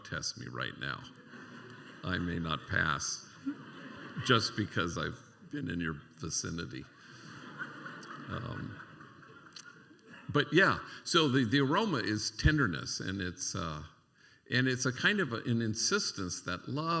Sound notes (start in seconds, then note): 7.0 laughter